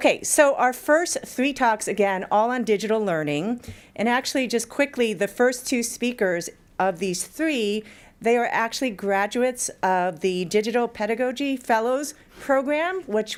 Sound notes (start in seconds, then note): none